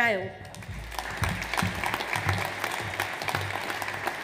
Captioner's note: audience applauds